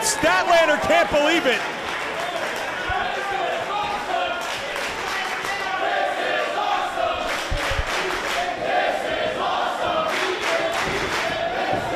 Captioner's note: applause